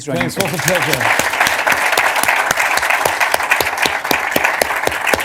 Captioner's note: applause